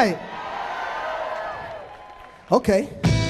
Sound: audience cheering

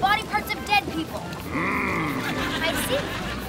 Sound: moaning

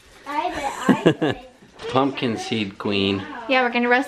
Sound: laughs

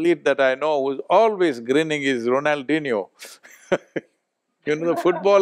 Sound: both laugh

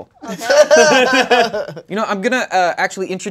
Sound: laughing

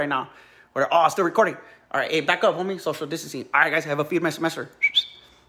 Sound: whistles

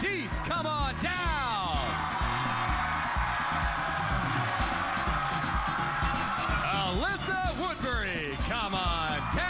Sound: cheers and applause

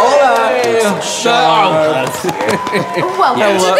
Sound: audience cheering

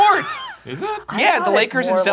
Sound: laughs

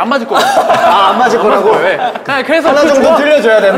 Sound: laughing

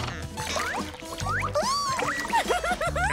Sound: giggling

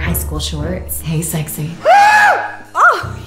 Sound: screams

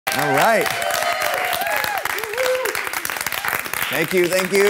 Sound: audience applauding

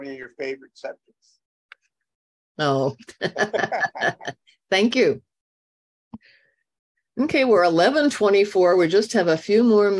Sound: chuckle

